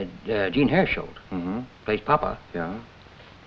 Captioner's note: Ed hums agreeingly